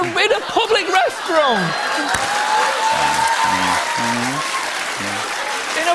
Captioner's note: cheers and applause